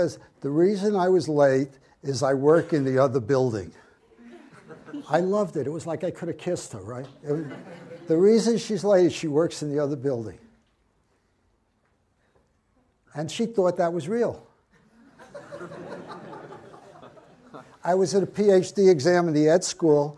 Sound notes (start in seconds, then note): 4.2 audience giggles; 14.9 audience laughs